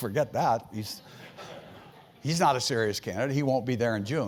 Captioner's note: laugh